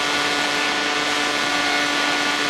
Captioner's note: plane noise